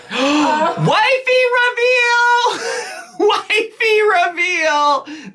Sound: gasps

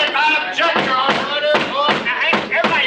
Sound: gavel banging loudly

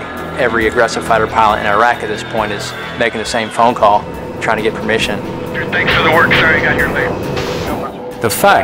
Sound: radio chatter

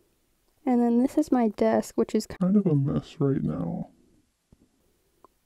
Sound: burp

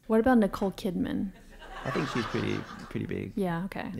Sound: laugh

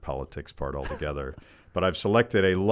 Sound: laughs

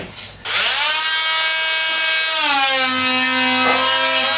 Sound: tool motor revs

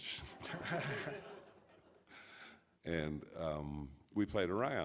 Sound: audience laughs

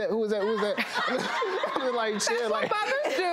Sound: audience laughs

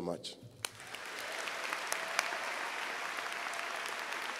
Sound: audience applauds

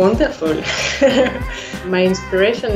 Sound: laughs

